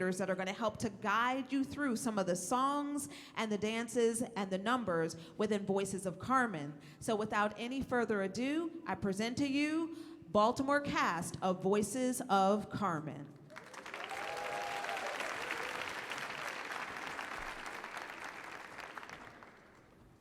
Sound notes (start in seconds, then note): 13.4 audience clapping